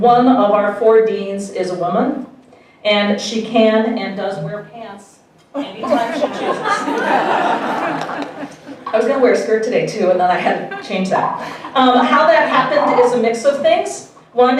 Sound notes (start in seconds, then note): 8.1 audience laughing